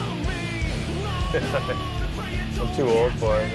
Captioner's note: chuckles